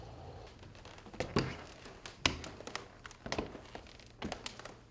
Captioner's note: creaking